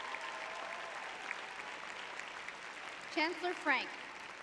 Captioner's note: audience cheering